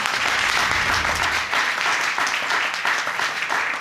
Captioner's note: audience applauding